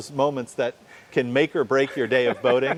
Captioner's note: laughing